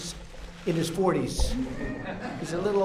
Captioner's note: laughter